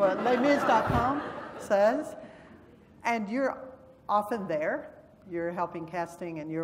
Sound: laugh

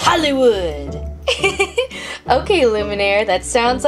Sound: giggles

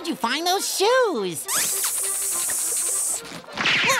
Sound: hissing

